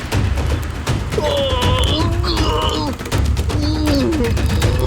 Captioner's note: dramatic drum music continues; Og grunting